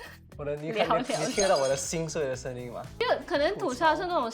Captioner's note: chit chat